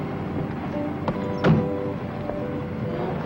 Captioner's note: door thuds close; gentle music